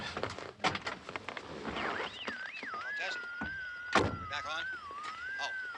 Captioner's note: radio: frequency squealing